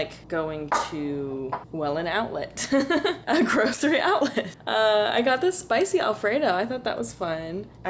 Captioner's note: laughter